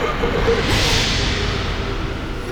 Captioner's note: whooooooo